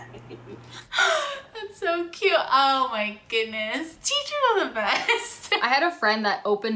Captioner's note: laughs